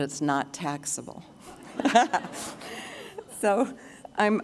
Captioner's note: laughter